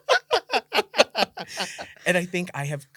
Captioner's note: laughter